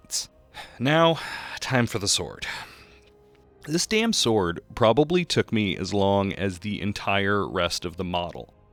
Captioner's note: sigh